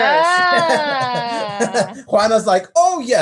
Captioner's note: laughs